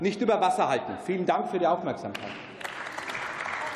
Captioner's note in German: Beifall